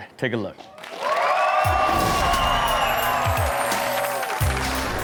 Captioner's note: audience cheers